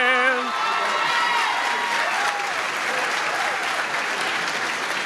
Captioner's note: applause